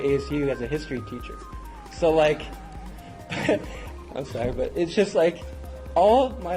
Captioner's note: laugh